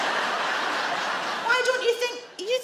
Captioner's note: audience laugh